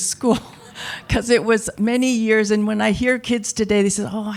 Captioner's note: chuckle